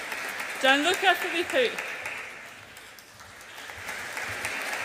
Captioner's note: audience applauds